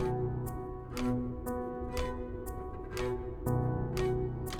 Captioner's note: ticking